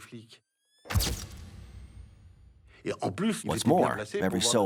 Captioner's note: camera flashing